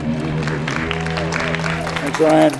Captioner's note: audience applauding